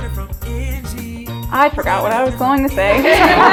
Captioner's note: laugh